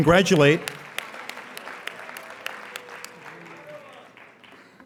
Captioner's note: applauding